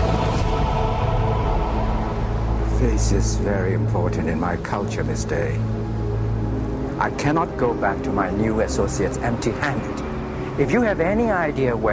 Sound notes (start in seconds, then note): none